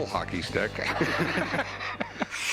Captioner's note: laughter